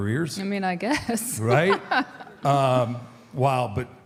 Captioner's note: laughs